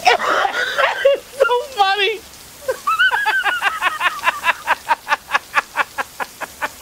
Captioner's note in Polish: śmiech